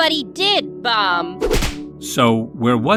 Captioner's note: knee-slap!